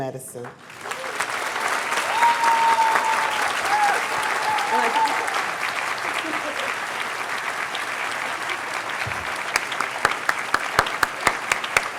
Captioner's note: cheers and applause